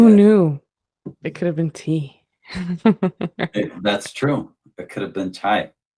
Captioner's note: laughter